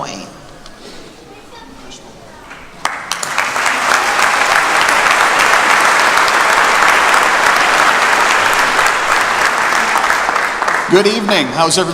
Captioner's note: applause